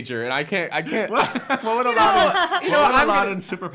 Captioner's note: boisterous laughing